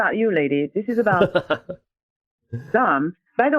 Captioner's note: laughs